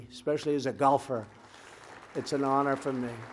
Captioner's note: applause